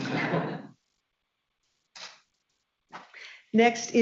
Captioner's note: people chuckling